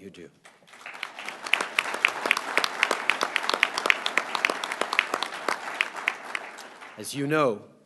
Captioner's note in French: Applaudissements